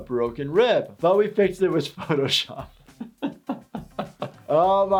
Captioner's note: laughing